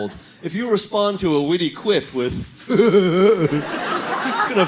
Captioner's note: dopey laugh